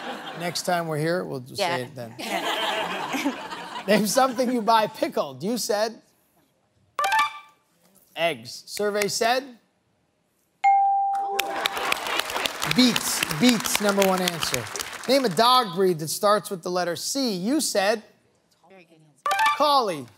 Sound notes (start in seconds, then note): 11.4 cheering